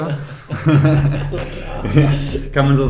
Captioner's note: both laughing